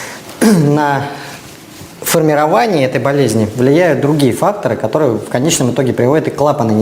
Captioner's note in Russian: откашливается